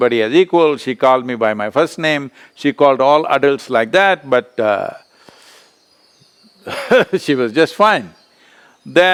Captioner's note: laughs